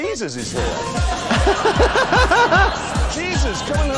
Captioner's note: laughs